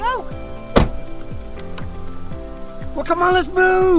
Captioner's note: car door banging